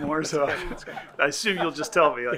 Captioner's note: group laughing